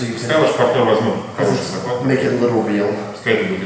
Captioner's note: speaking in a foreign language